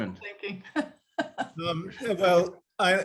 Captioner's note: laughs